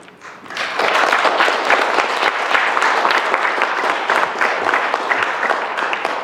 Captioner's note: applause